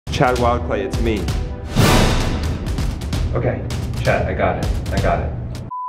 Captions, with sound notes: - Chad Wild Clay, it's me. (dramatic sound) Okay, Chad, I got it, I got it.